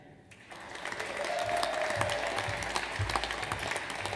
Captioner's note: audience applauds